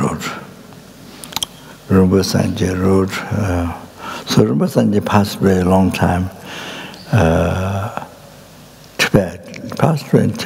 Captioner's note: speaks in Tibetan